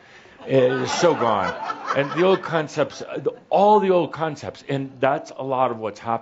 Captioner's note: some chuckles